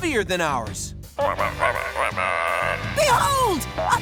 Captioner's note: croaking